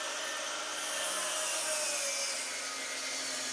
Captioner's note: saw buzzing